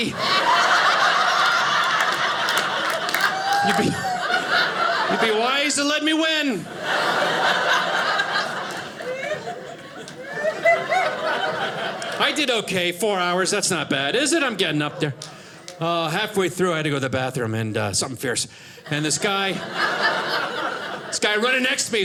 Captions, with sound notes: (audience laughing) It would be wise to let me win. (audience laughing) I did okay, four hours. That's not bad, is it? I'm getting up there. Oh, halfway through I had to go to the bathroom something fierce and this guy running next to me, he's like